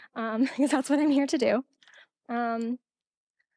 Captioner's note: laughing